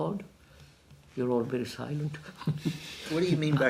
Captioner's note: laughs